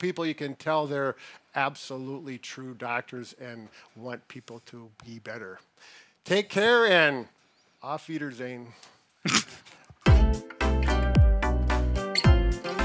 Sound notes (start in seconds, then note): 9.2 laughs; 10.0 upbeat music